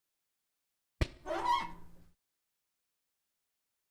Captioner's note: sound of a hand squeaking across a whiteboard